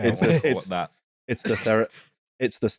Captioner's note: laughter